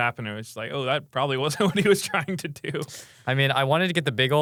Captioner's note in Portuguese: risos